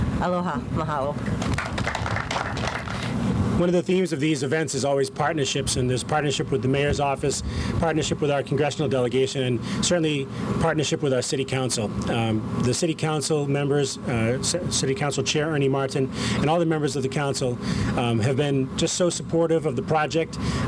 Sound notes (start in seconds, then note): 3.3 applause